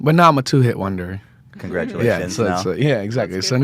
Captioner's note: laughs